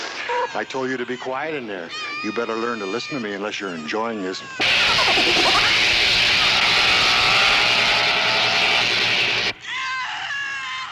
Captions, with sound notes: I told you to be quiet in there. You better learn to listen to me unless you're enjoying this. (zapping) (screaming)